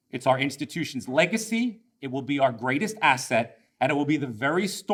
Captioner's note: none